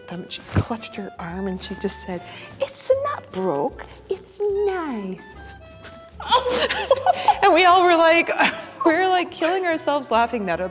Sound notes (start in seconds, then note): 6.3 laughing